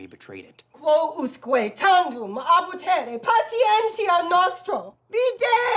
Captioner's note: angrily speaking Latin